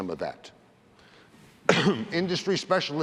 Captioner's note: cough